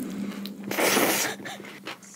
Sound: slurping

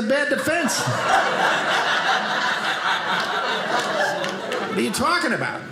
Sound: audience laughing

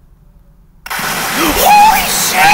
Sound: loud corrupted noise

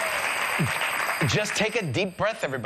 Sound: audience applauding

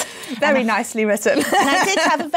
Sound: laughs

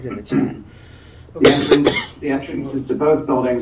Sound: member coughs

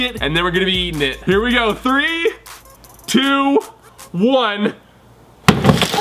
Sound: hammer banging; cracking

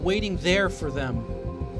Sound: speaking spanish

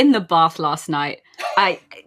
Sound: laughs

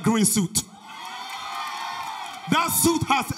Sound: audience cheers

